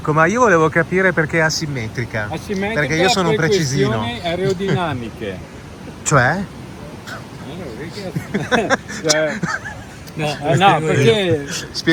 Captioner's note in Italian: risate